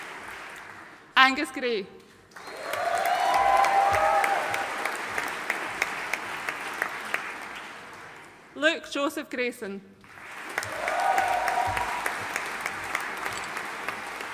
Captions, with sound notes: Angus Gray. (AUDIENCE CHEERING AND APPLAUDING) Luke Joseph Grayson. (AUDIENCE CHEERING AND APPLAUDING)